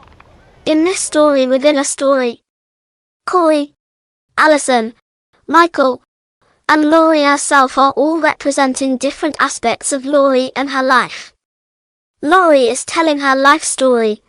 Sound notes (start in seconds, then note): none